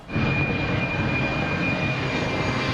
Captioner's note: plane engine roars; ominous music plays